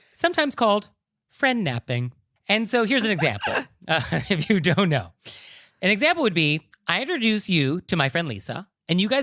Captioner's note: giggling